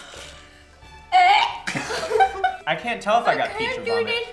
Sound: retches

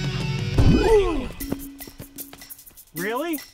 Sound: belly slam

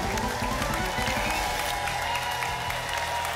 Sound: shuffling sound; applause and cheering

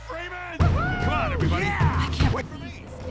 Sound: cheers

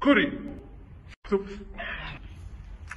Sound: sigh

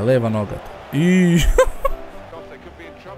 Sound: laugh

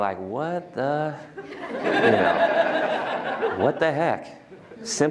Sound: laughter

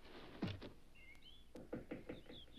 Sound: wood creaks

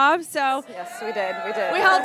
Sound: audience cheering

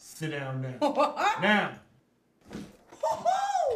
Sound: chuckling

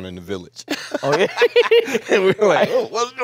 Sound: both laughing

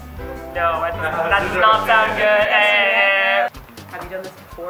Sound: incorrect sound

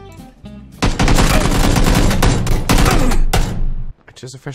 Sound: gunfire

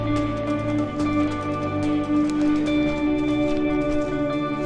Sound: footsteps crunching

